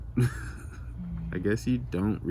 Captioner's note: laughs